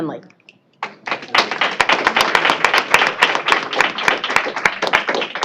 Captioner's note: applause